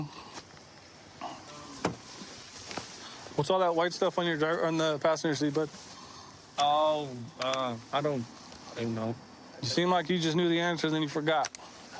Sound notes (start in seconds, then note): none